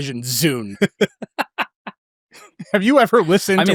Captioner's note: laughing